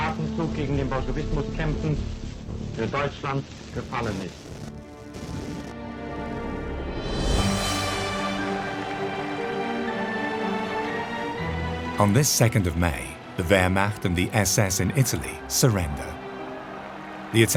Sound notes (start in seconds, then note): 8.0 cheering and applauding